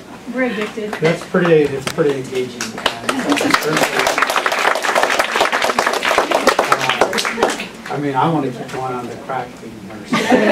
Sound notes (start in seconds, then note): 1.9 applause